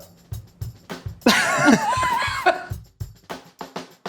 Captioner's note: laughter; drum music